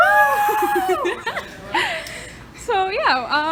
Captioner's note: laughs